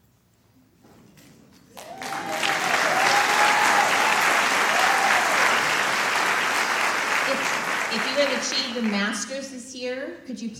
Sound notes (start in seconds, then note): 1.7 applause